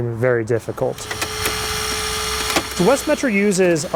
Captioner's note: spreaders humming